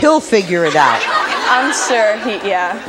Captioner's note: audience laughing